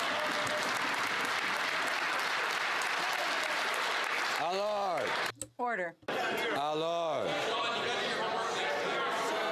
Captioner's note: some Applause